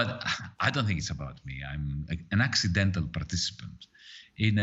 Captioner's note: both laughing